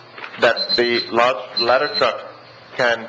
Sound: alarm beeps

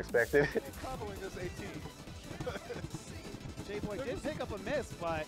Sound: laughs

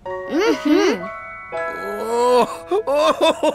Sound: crying

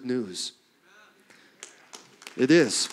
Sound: clapping

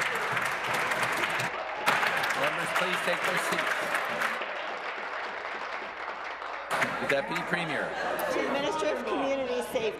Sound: applause

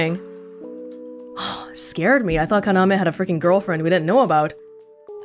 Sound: exhales

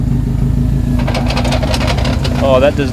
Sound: gear crunching

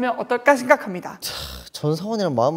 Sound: sigh

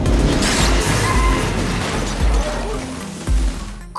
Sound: tires screeching; glass shattering

